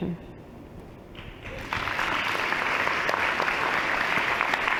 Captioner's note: applause